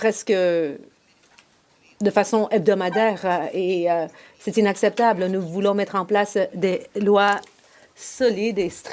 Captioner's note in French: voix de l'interprète